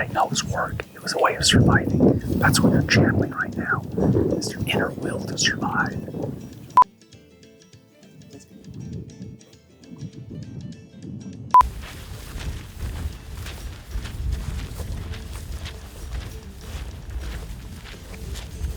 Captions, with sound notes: No, it was work. It was a way of surviving. That's what we're channeling right now, is their inner will to survive. (beeps) (upbeat music) (beeps) (feet marching)